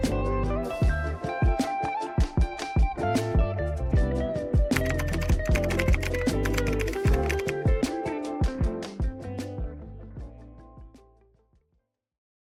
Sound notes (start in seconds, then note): 4.7 keyboard clacking; 8.3 upbeat chill-out music continues